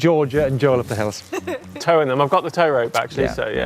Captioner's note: laughing